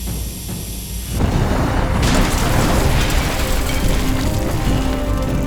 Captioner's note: explosion booms